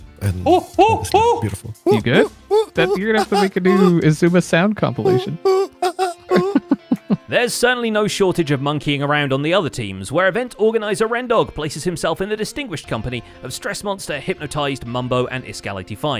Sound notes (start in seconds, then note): 0.3 mimics noises; 0.9 alarmed hooting